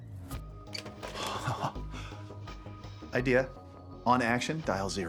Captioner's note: laughs